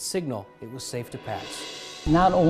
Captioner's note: swoosh